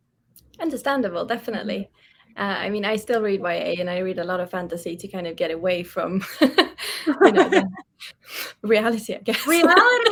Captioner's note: laughs